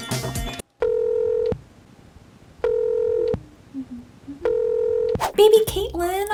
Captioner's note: humming; phone ringing